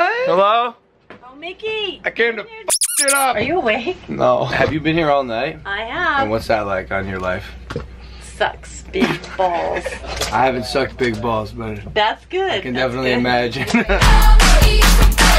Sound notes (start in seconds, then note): 13.1 laughs; 13.5 upbeat music plays